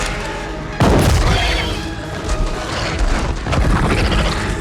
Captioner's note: gun clicks and bangs; creature growls and roars